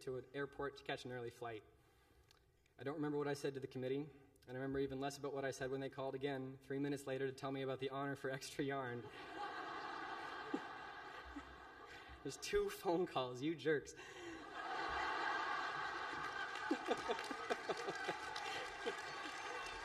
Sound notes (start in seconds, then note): 11.7 laughter